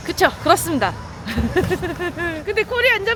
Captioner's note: laughs